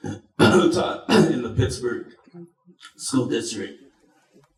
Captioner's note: clears throat